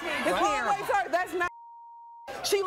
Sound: beeping

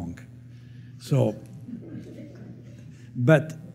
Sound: laughter

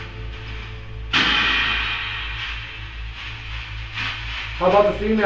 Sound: radio noise reverberating

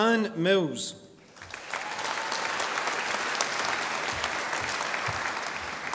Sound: audience applauding

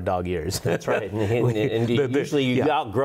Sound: laughs

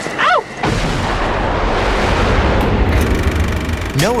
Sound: aircraft roaring

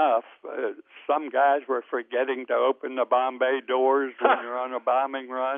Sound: laughs

